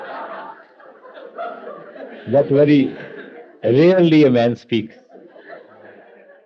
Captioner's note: laughter